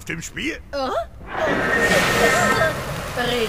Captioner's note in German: Überraschte Laute